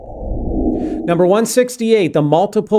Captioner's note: air whooshing